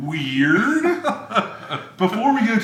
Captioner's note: laughs